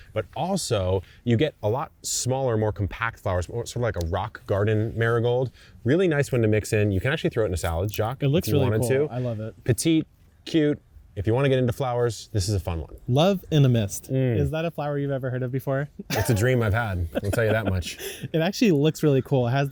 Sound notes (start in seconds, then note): 16.0 chuckles